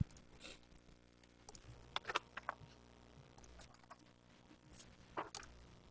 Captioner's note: computer mouse clicking